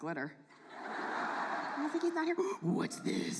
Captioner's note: audience laughs